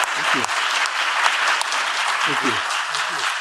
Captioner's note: audience applauding